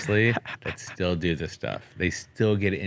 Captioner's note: laughs